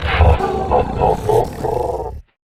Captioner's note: laughs